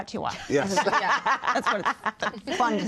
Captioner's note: laughter